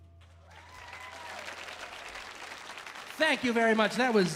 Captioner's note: audience applauding; audience cheering